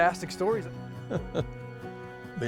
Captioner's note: chuckles